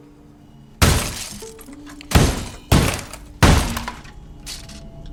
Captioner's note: sound of smashing